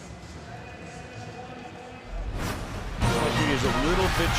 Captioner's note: pa announcement